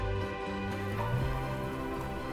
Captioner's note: wind blowing